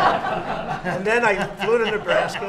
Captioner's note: laughter